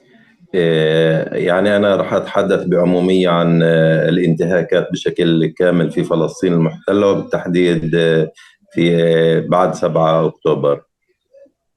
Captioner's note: speaking arabic